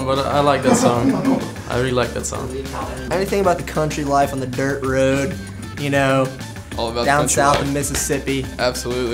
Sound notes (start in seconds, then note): 0.6 laughter